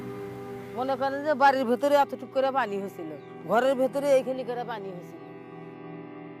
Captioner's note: foreign language